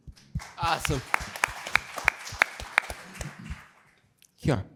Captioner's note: applause